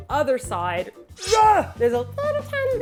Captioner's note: sword unsheathing